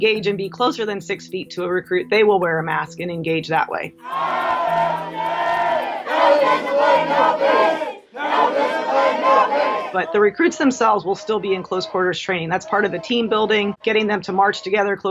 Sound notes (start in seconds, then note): 4.1 recruits yell